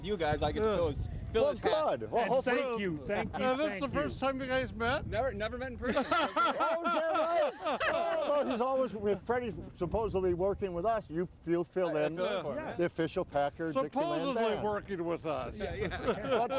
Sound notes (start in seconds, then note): 5.8 everyone laughing; 5.8 everyone laughs; 15.7 everyone laughing